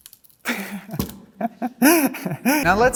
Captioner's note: chuckles